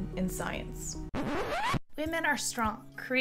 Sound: rewind sound

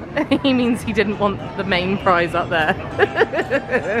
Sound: giggling

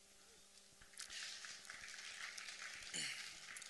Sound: applause

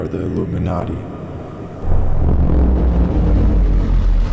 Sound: loud robotic hum

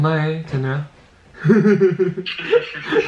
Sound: laughing

